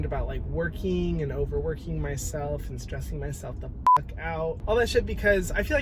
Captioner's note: beep